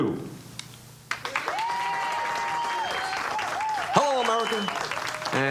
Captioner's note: audience applauds